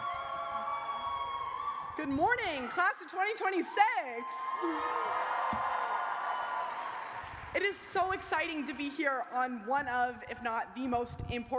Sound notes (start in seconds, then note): 1.9 cheers and applause; 5.6 cheers